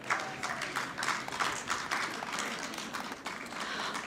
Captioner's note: audience clapping